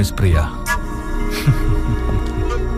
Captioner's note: chuckles